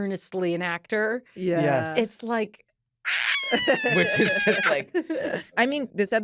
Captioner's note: squeals; all agreeing